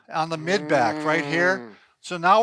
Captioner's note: grunting